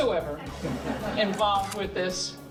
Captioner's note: audience chuckling